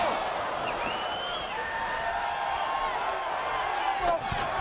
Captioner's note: crowd cheering